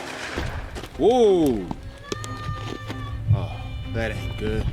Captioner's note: gunshot